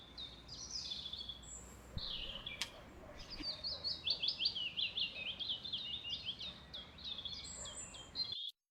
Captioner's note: birds chirping